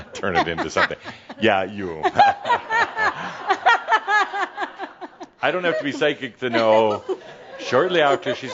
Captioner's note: laughing and audience laughter